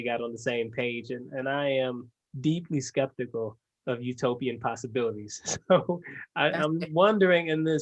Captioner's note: laugh